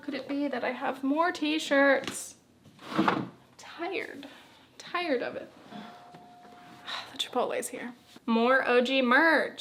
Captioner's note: doorbell